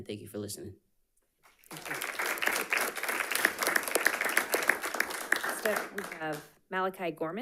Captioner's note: audience applauding